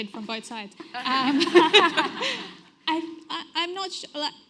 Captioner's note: everyone laughs